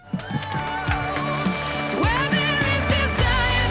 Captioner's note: audience clapping